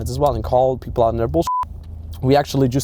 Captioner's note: beep